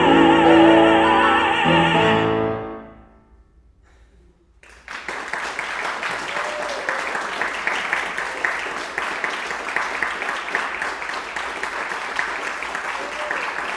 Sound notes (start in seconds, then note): 4.6 audience applauding; 5.1 audience cheering